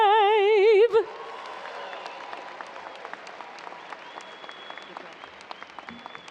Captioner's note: audience cheering and applauding